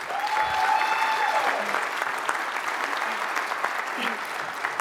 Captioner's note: audience applauds